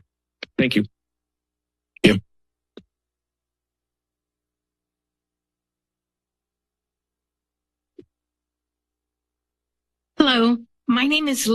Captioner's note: silence